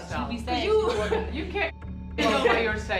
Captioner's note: laughs